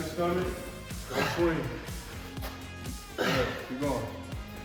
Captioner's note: grunting